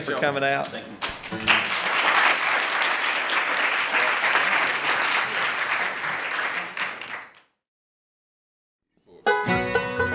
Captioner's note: applause; closing music